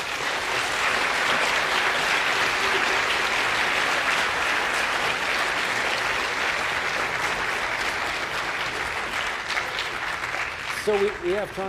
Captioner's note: applause